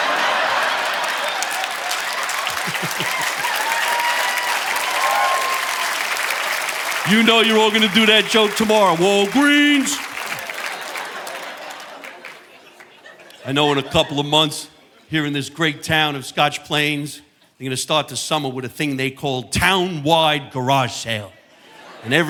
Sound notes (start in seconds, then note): 0.0 audience laughing; 2.4 chuckles; 3.2 audience applauding; 11.0 audience laughing